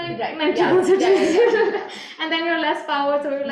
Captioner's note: laughing